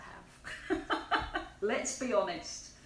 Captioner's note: laughs